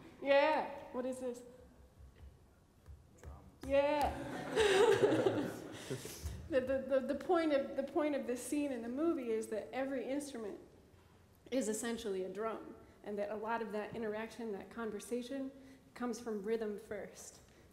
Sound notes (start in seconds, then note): 4.1 laughter